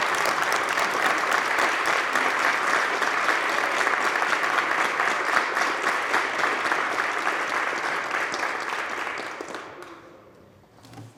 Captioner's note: applause